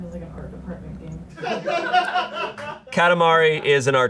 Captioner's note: audience laughing